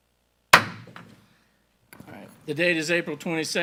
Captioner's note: gavel banging